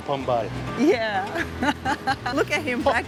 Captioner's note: laughs